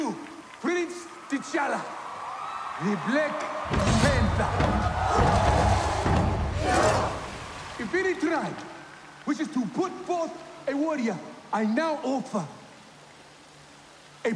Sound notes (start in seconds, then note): 0.0 cheers and applause